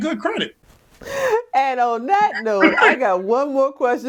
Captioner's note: laughs